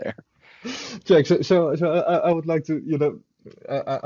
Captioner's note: laughing; laughing